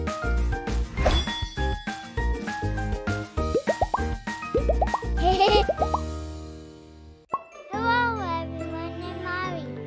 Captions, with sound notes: (laughter) Hello everyone, I'm Ari